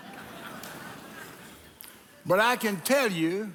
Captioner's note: audience laughing